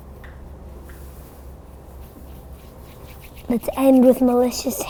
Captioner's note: both rubbing hands